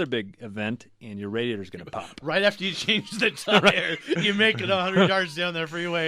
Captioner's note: laughing